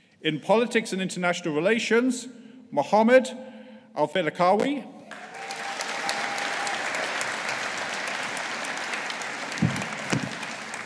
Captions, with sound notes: In Politics and International Relations, Muhammad Al Failakawi. (AUDIENCE APPLAUDING)